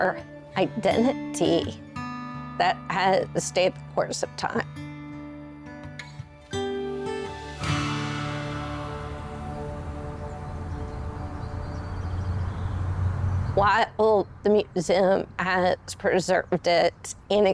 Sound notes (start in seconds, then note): 8.9 birds singing; 11.2 traffic faintly whizzing